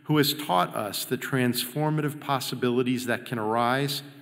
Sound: none

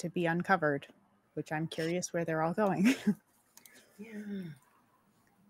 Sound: chuckles

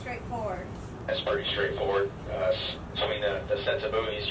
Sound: man On Radio

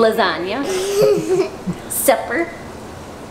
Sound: giggles

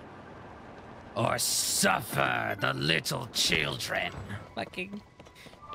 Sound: Green Goblin Voice

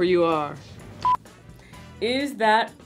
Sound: beep

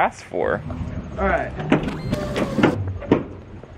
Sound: tailgate opening

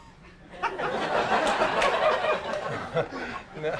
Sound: audience laughs; laughs

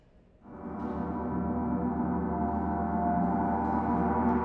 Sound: gong lightly ringing

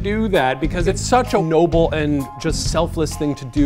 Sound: none

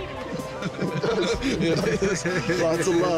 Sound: laughing

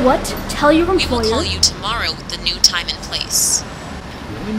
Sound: woman on phone

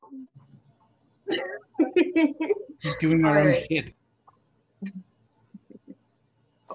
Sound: laughs

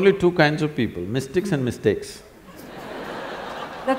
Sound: laughter

